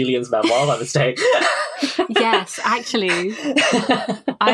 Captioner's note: laughs